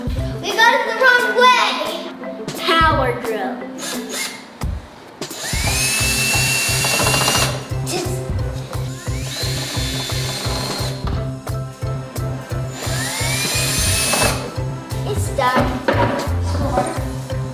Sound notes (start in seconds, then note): 3.7 drill sound